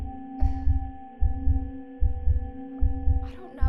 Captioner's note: soft tense music; heartbeat thumping